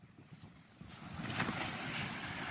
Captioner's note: wind